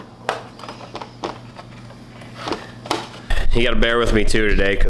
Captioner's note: plastic Rattling